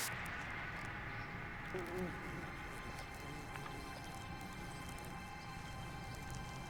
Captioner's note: gentle, dramatic music; insects buzzing